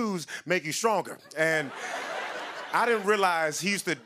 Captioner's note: laughter